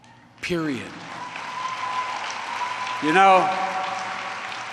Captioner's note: applause